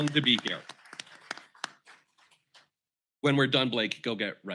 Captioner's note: applause